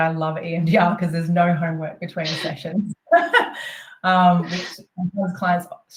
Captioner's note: chuckles